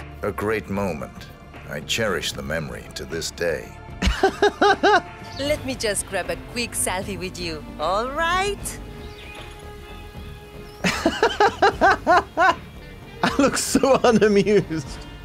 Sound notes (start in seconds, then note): 4.0 laughs